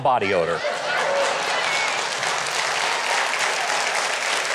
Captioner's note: audience applause